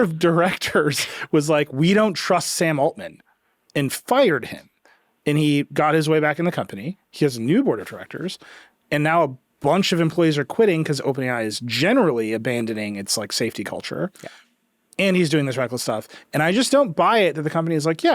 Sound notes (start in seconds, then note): none